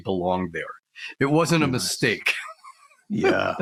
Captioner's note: laughs